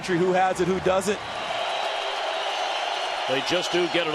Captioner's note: crowd cheering